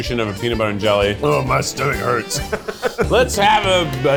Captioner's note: laughs